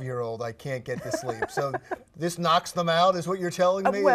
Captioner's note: laughs